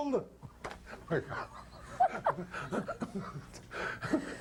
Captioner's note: laughing